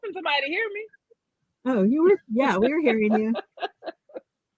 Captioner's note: laughter